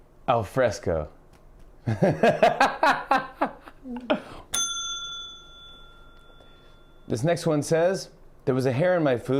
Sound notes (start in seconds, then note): 1.9 laughing; 4.5 ding